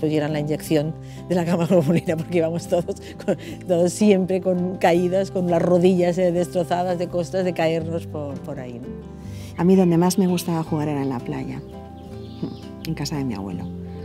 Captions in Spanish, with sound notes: a que nos pusieran la inyección. (Risas) Porque siempre nos caíamos, con las rodillas destrozadas de caernos por ahí. A mí dónde más me gustaba jugar era en la playa, en casa de mi abuelo.